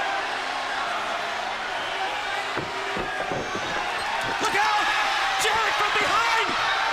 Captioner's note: crowd chatter